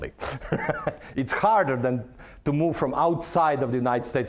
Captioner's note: laughing